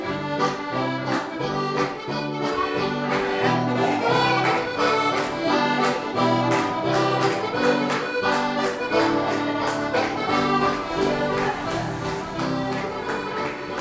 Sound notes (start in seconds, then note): 0.0 lively accordion and guitar music; 0.0 lively music; 2.4 clapping